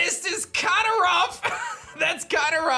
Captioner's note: chuckles